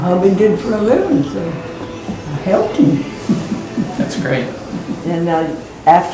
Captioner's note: laugh